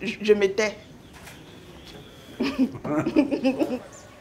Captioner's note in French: rire